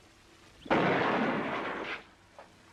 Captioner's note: gunshot